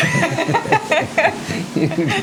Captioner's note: laughter